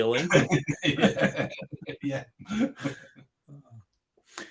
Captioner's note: both laughing